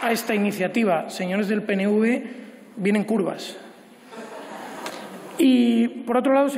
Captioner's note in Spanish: Aplausos